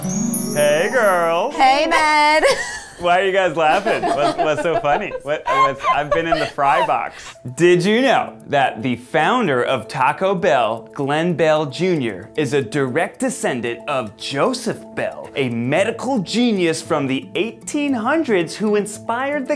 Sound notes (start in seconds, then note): 1.7 giggling